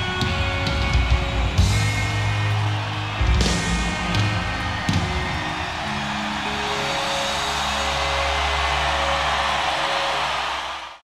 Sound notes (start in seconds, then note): 5.6 audience cheering